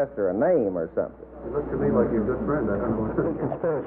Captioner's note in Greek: γέλια